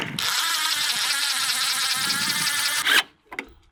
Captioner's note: drilling